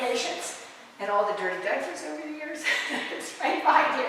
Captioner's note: laughter